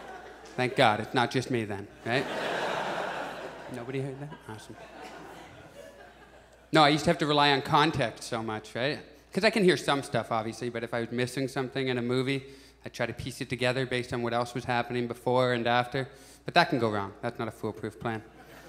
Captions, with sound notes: Thank God. It's not just me then. Right? [Audience laughs] [Whispers/murmurs] Nobody hears that? Awesome. No, I used to have to rely on context so much, right? Because I can hear some stuff, obviously. But if I'm missing something in a movie, I try to piece it together based on what else was happening before and after, but that can go wrong. That's not a foolproof plan.